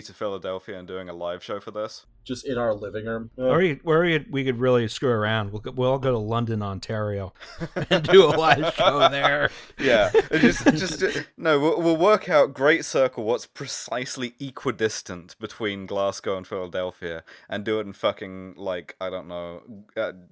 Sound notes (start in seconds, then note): 7.4 laughter